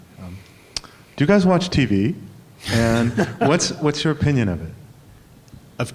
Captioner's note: laughter